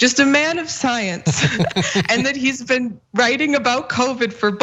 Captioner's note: laugh